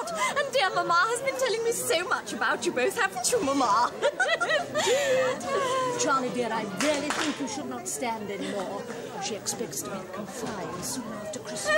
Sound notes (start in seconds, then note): 4.0 both laugh